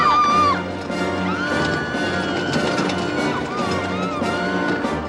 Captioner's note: all screaming